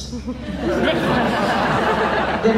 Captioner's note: laughs